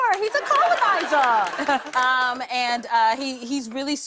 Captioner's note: laughter